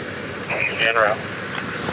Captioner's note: radio chatter